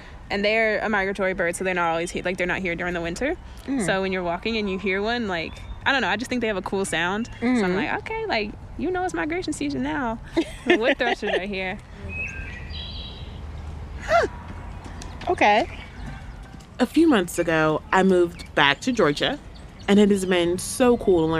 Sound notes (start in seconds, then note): 11.8 wood Thrush song